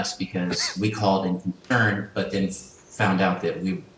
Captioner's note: murmurs